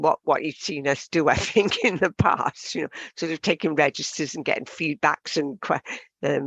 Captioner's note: laughs